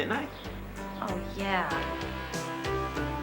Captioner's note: sarcastic